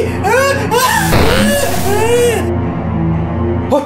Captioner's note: poing